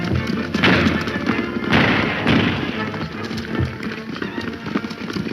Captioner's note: several gunshots fire